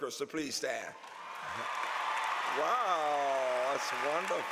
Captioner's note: applause